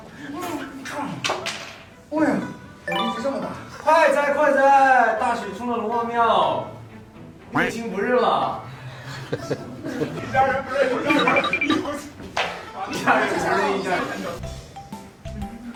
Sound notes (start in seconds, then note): 7.2 radiantly saying the wrong lines